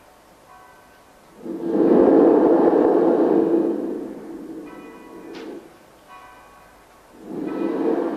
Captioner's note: shri mataji blows into the mic; shri mataji blows into the mic